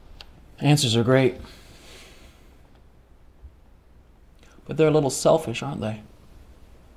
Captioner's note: none